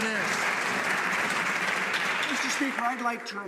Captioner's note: some Applause